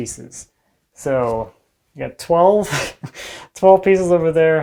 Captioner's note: laughs